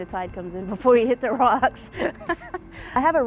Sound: laughs

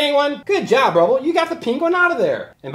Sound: voiceover

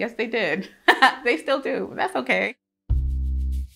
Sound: laughs; slow jazzy music

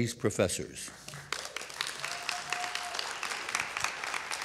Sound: audience claps

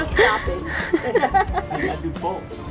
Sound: women laughing

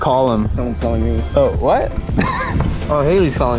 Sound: laughs

